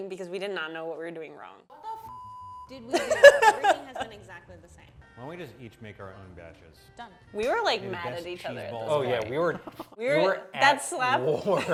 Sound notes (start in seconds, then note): 2.1 beep; 2.9 laughs